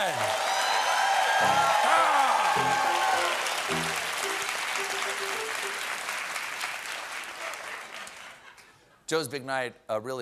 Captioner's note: applause